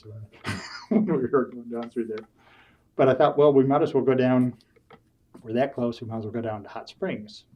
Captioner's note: laughs